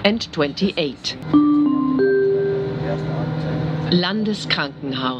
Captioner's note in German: Gong